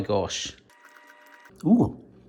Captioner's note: munching